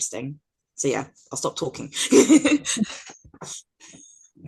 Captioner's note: chuckles